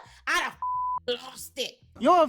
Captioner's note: beep